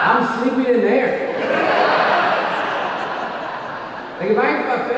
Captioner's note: audience laughing